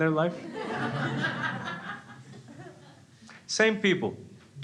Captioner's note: crowd laughs